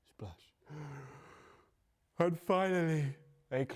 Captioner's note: Fin yawns